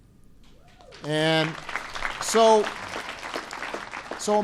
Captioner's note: applause